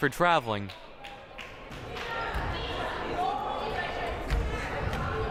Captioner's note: crowd murmuring